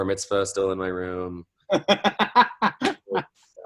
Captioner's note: laughs